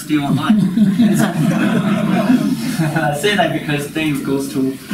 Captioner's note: group laughs